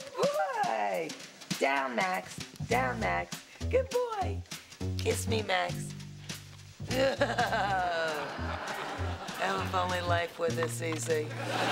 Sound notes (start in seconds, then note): 6.9 chuckles